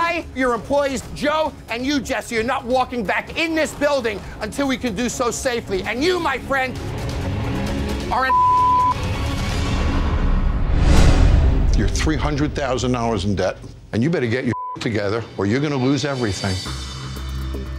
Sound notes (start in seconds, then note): 8.2 beep; 14.5 beep